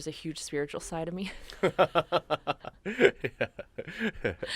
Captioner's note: host laughs